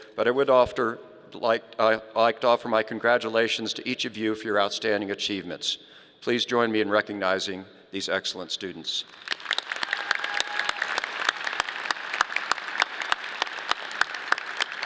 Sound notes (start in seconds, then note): 9.0 audience applauding